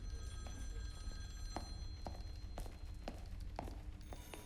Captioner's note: telephone rings in distance